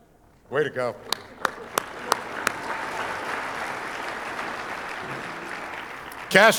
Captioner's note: audience applauding